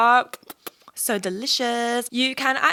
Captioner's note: lips smacking